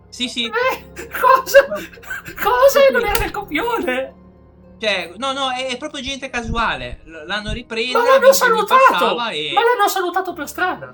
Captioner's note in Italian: risate